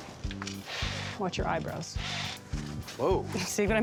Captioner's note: blowing; blowing sound